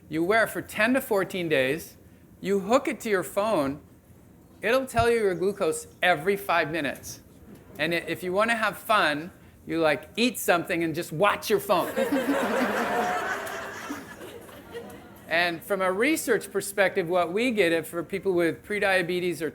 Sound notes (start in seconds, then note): 11.8 audience laughing